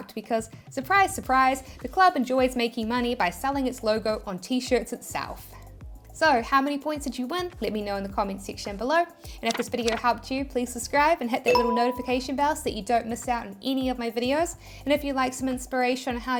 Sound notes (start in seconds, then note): 9.4 paper rustling; 11.5 bell chiming